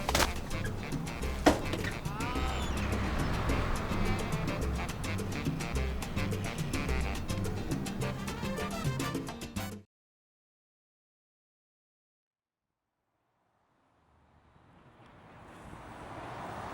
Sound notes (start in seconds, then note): 1.4 door creaks and closes